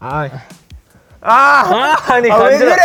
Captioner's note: shocked